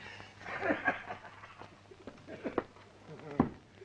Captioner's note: laughs